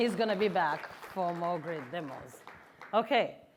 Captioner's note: applause